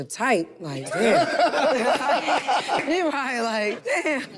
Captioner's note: group laughs